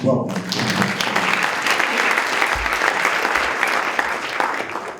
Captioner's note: audience applauding